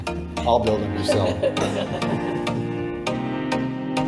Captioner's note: both laughing; upbeat music